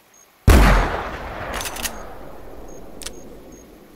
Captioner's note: rifle shot